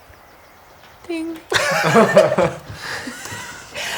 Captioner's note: laughter